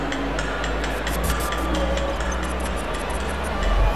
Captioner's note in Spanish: Tictac acelerado; Ovación